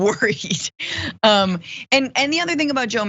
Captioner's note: laugh